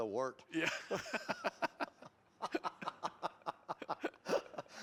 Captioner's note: laughter